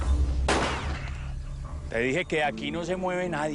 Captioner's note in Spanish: Disparo